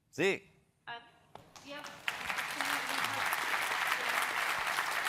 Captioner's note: applause